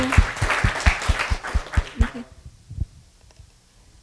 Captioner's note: applause